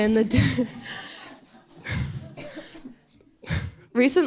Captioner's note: audience laughing